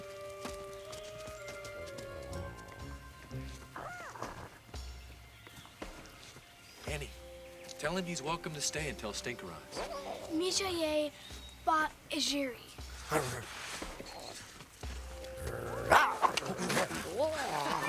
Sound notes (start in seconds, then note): 2.2 soft music; 13.0 Paku grunts; 15.4 Paku growls